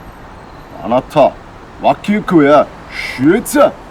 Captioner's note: speaks in Japanese